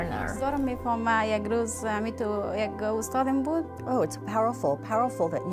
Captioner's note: speaking foreign language